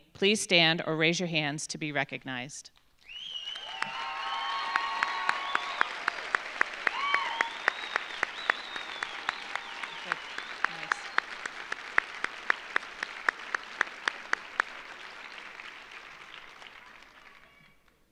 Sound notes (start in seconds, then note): 3.3 audience applauding; 3.3 audience cheering